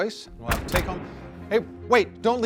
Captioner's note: gunshot echoing